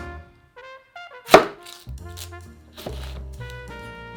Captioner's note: chopping